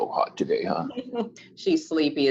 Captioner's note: giggles